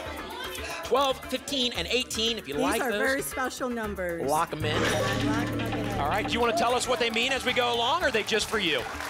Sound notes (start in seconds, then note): 4.8 applause and cheering